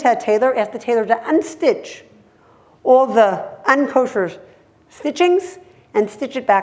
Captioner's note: hebrew